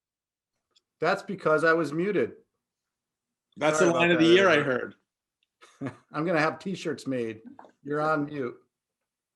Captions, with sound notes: - That's because I was muted. - That's the line of the year I heard (laughs). - I'm gonna have T-shirts made, you're on mute.